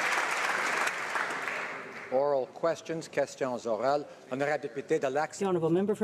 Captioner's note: applause